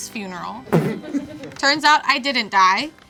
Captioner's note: crowd laughing